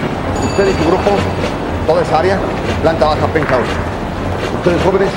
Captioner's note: speaking Spanish